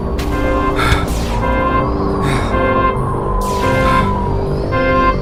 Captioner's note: heavy breathing